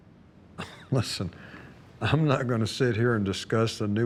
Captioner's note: scoffs